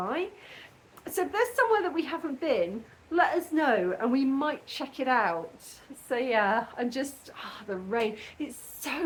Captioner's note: sigh